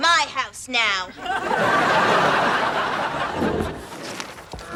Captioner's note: audience laughter